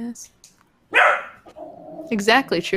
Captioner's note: dog barking; dog growling